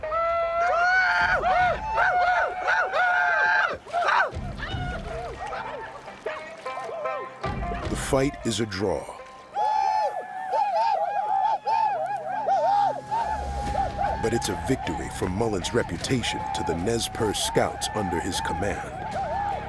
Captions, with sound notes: [WHOOPING VICTORIOUSLY] THE FIGHT IS A DRAW - [WHOOPING] BUT IT'S A VICTORY FOR MULLAN'S REPUTATION TO THE NEZ PERCE SCOUTS UNDER HIS COMMAND.